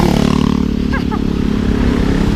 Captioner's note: laughs